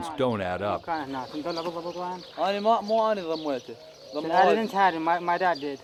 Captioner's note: voiceover; interpreter and man speaking in Arabic